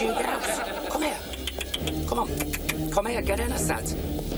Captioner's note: clicks tongue